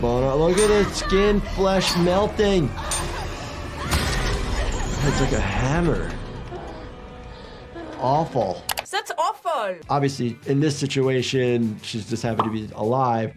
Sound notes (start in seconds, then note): 2.7 woman screaming